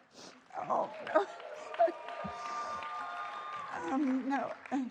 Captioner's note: applause